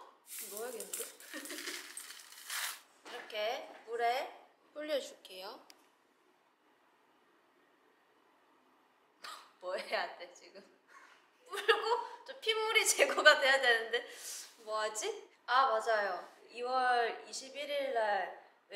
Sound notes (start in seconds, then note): 6.0 silent